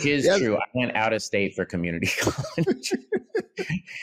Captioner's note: laughs